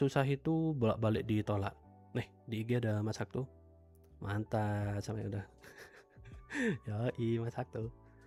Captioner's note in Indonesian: tertawa